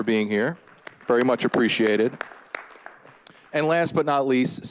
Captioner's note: all applauding